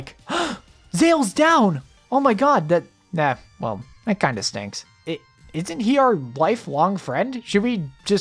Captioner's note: gasp